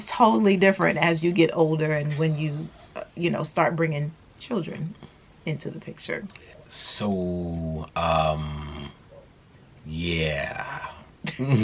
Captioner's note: laughing